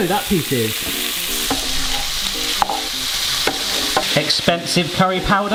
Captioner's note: pan sizzling